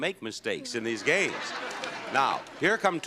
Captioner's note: audience laughs